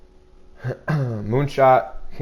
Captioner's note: clears throat